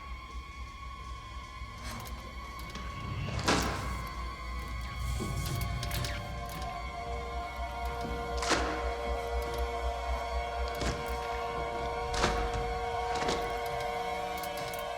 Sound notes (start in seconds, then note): 4.8 eerie music; 4.8 electricity crackling